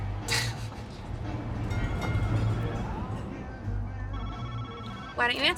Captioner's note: phone ringing